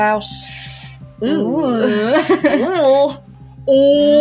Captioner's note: uncomfortable Groans; laugh